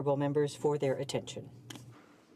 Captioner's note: speaking French